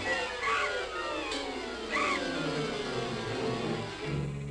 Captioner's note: bat shrieking